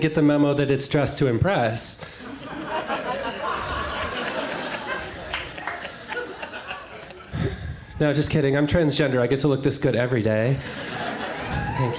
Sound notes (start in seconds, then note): 2.1 crowd laughs